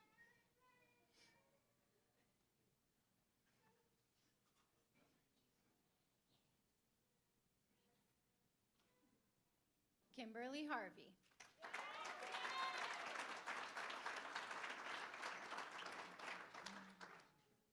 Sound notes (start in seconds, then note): 11.3 applause; 11.5 cheering